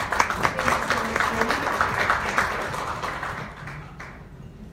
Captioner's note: audience applauds